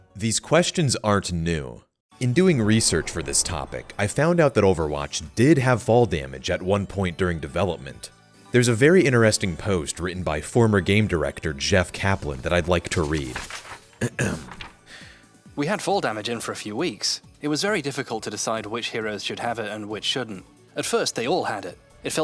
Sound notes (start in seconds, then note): 14.0 ahem